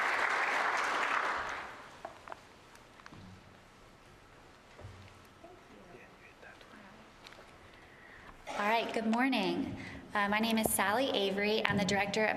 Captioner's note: applause